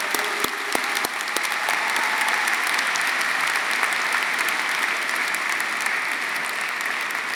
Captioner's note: audience applauding; audience cheering